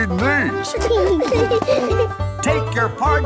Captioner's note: laughing